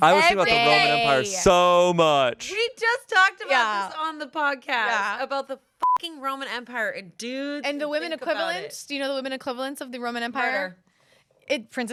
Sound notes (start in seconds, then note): 5.8 beep